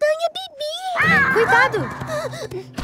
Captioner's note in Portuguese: filhote bramando